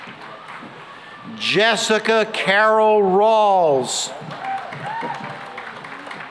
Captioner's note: cheering and applause